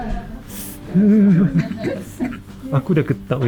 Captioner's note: shiver